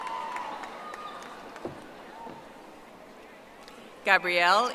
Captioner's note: audience applauding